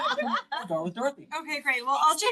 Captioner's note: all laugh